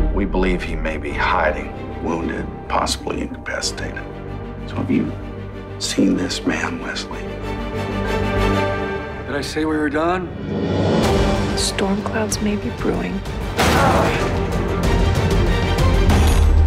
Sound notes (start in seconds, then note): 13.5 bang; 16.0 bang